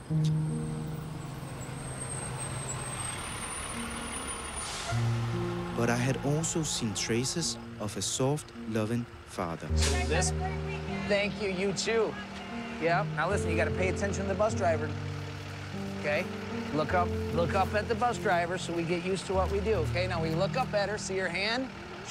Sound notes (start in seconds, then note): 0.1 brakes squeal; 0.1 tender music; 2.9 engine purrs; 4.6 brakes hiss and squeak